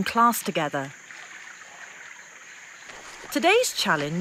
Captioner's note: water rustling